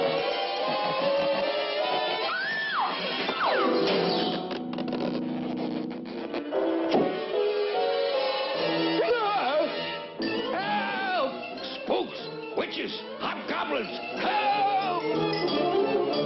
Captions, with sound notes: [screams] [screams] Help! Spooks! Witches! Hobgoblins! Help!